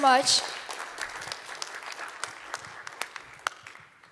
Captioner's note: applause